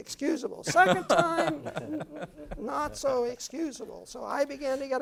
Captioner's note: laugh